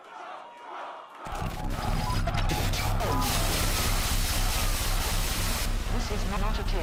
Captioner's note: fans chanting